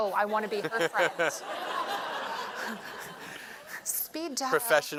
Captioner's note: laughter